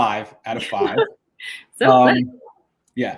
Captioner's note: laughs